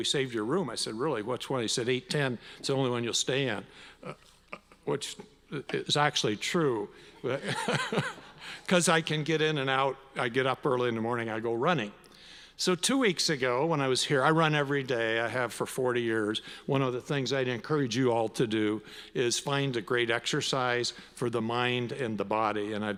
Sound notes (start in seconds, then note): 7.3 laughs